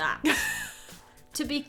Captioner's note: chuckles